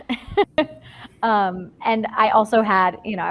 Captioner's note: laughs